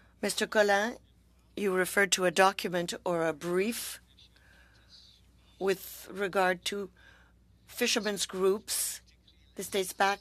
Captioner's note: speaking French